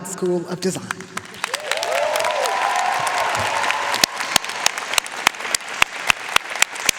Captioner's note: audience cheering and applauding